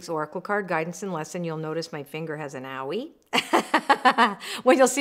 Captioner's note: laughs